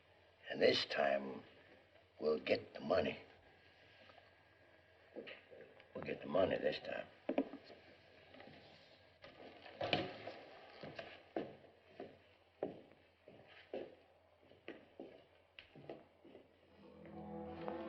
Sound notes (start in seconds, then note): 7.8 silence; 16.8 suspenseful music